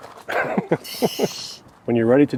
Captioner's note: laughing